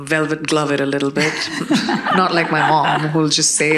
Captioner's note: audience laughing